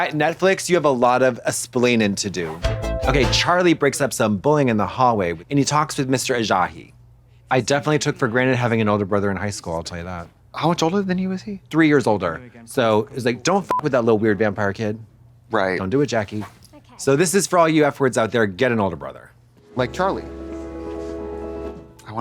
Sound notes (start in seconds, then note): 2.6 synth bop; 14.0 beep; 19.6 gentle music